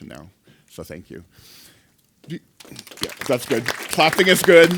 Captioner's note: applause